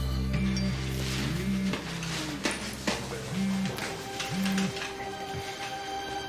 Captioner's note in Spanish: Vibra el celular